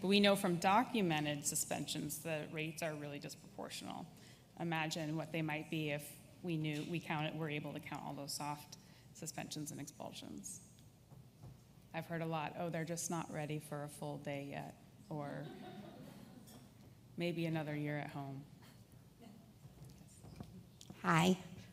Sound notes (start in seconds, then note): 15.5 audience laughs